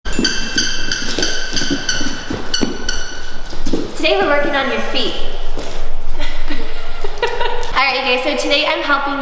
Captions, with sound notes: - Today we're working on your feet. (laughs softly) All right, you guys.